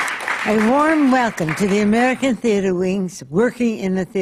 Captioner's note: applause